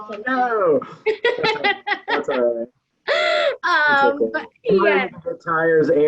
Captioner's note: laughs